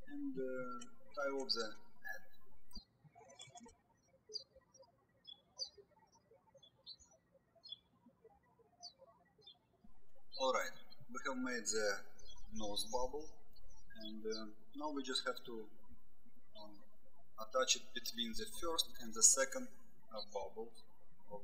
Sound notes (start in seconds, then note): 3.1 birds chirping